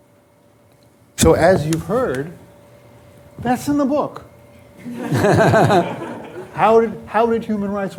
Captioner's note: laughter